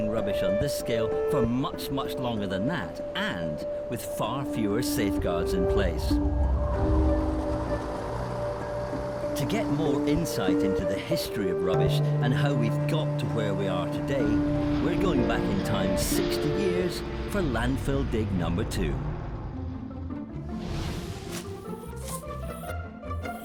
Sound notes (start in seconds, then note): 6.7 wind whistling; 8.6 truck engine revving; 19.8 lively bright music